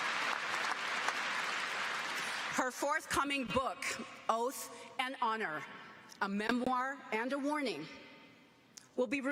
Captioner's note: applause